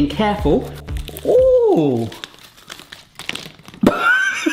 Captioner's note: laughs